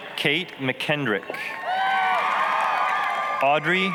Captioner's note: applause, cheering